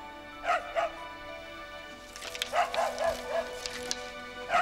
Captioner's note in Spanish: perro ladrando